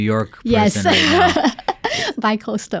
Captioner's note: laughing